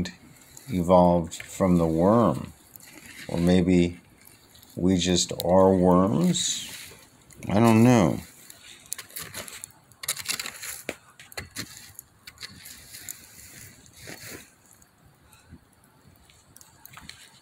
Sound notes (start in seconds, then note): none